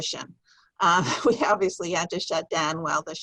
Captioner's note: chuckles